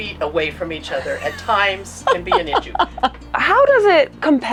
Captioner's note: laughing